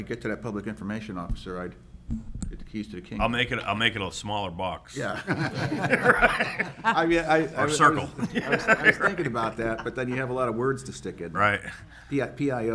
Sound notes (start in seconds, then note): 4.9 members laughing